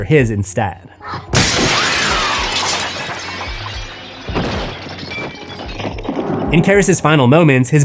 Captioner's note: glass shatters; screams